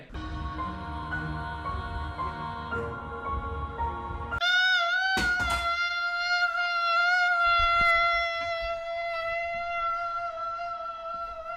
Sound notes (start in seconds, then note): 0.1 ominous music; 4.4 wailing